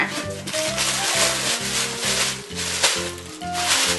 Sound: crinkled plastic sounds

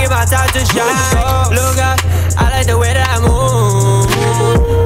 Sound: woo

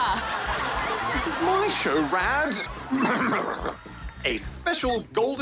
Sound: recorded laughter and applause; blusters

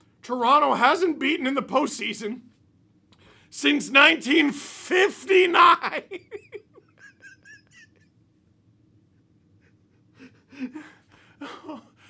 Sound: concerned laughter

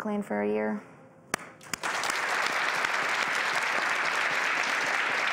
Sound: audience applause

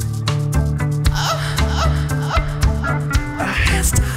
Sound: orgasmic yelp

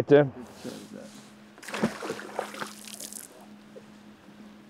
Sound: water splashing

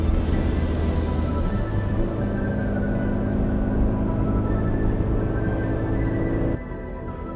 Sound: engine note rises

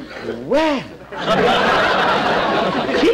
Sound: audience Laughing

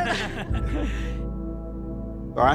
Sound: laughing

